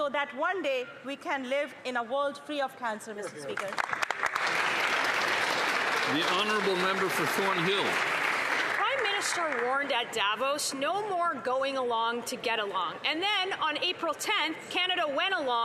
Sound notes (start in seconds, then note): 9.8 applause